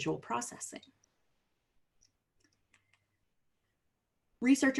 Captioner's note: silence